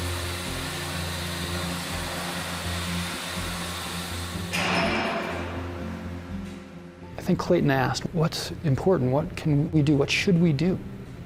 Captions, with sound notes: (metal clanging) - I think Clayton asked, what's important? Wat can we do? What should we do?